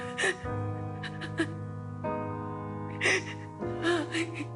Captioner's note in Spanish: Sollozos; Llanto de ella; Sollozos